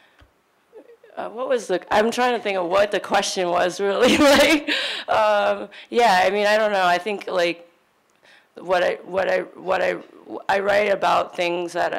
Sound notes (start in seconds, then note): 5.2 laughing